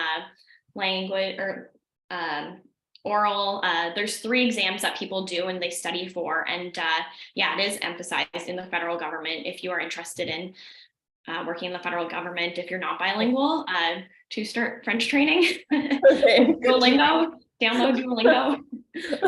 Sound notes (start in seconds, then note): 15.7 laughs